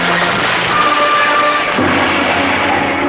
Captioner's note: glass Breaking